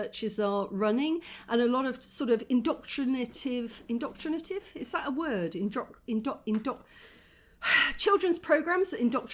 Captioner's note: sigh